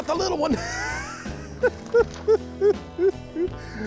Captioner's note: laughing